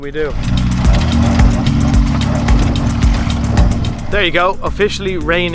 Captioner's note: tuk-tuk rumbling